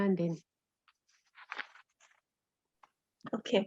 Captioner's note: papers rustling